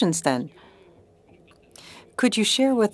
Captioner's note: speaking French